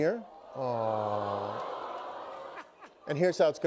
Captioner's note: audience "Awws"